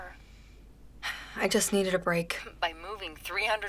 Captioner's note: sighs